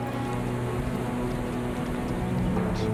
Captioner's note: horse hooves